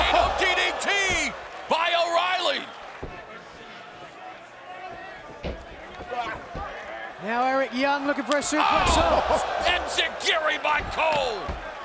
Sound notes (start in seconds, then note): 3.4 fans chattering